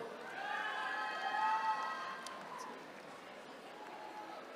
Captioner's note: attendees cheering